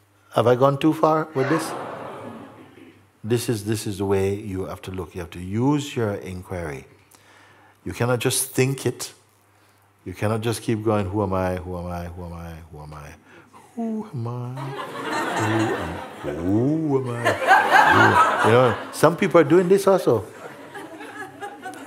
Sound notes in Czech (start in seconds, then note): 13.7 Mooji legračním hlasem; 17.0 smích